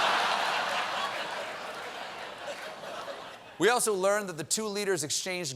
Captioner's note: laughter